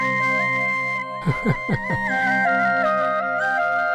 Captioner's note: Laughs